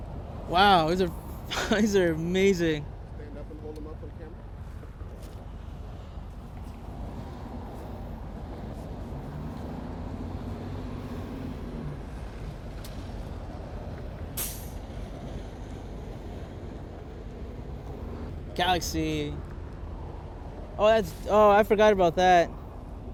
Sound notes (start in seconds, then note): 4.9 street Sounds